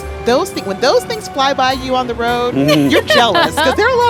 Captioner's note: laughing